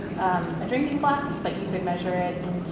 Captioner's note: liquid pouring